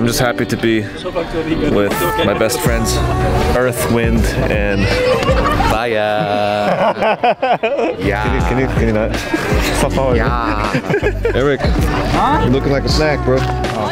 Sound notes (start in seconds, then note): 6.9 laughing; 10.6 laughing